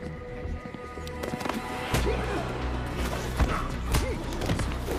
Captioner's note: crowd gasping